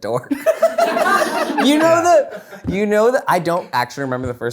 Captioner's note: people laughing